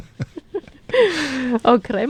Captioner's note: gasp